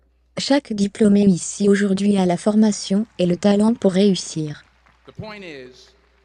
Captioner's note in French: L'audience applaudit